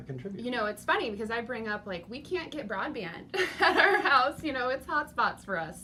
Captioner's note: laughs